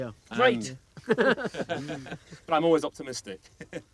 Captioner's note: men laughing